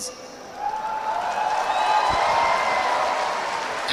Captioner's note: applause